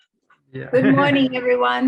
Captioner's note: chuckles